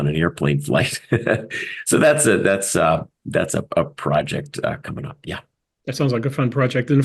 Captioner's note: laugh